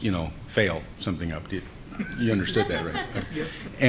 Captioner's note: laughing